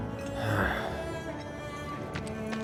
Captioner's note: sighs